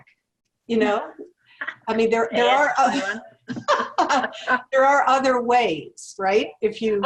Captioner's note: laugh